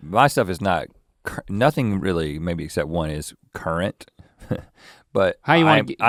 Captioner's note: chuckles